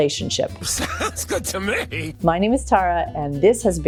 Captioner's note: laughing